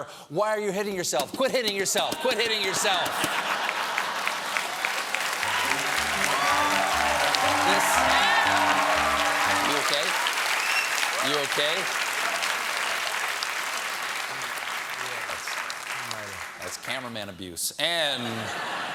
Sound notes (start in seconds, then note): 7.0 cheers and applause; 7.0 piano riff